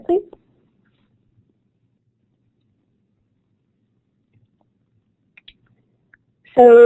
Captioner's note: silence